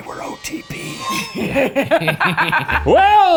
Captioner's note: laughing